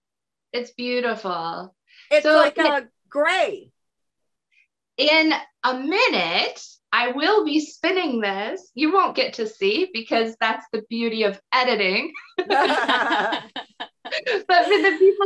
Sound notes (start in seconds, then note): 12.1 laughter